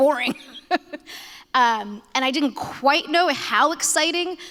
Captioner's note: laughter